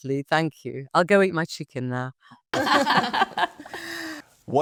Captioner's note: all laughing